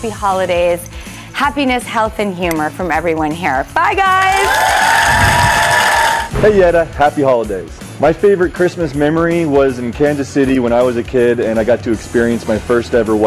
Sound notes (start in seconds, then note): 4.3 cheering